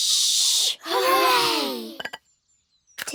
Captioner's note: quietly